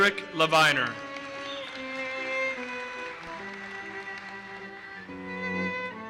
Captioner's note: audience applauses